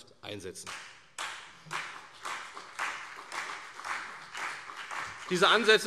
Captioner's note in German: Beifall CDU und BÜNDNIS 90/DIE GRÜNEN